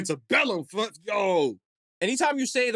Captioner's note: mumbling